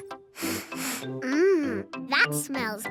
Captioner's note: sniffs